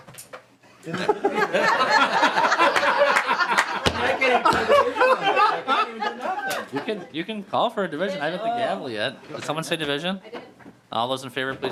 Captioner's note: laughter